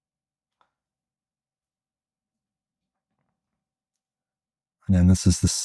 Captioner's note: silence